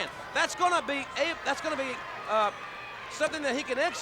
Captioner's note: crowd clamoring